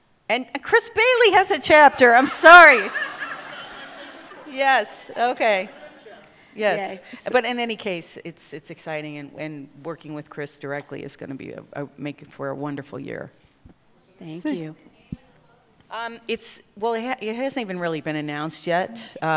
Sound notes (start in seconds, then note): 2.3 laughter